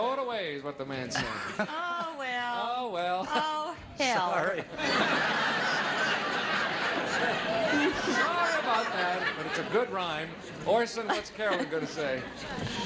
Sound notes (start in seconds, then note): 4.4 audience laughing